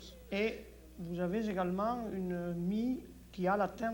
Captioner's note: speaks French